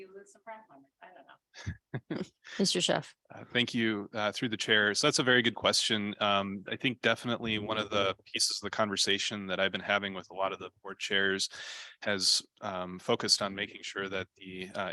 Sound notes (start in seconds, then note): 6.2 off mic